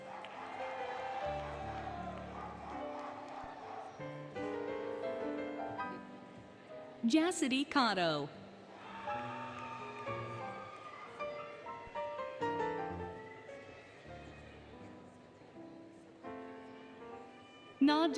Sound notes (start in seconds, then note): 0.0 applause, Cheering, Music; 8.7 applause, Cheering, Music; 12.8 cheering, Music